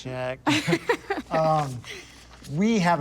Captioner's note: laughs